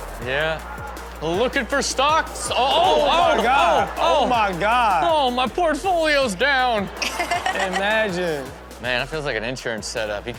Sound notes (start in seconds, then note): 0.0 audience cheers; 0.0 upbeat music; 7.0 Chanel laughs